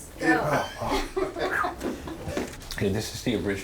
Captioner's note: laughs